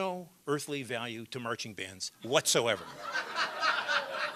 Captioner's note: laughter